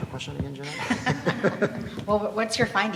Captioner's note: laughs